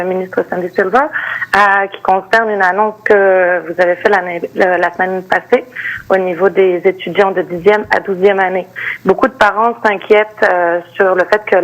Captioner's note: speaking French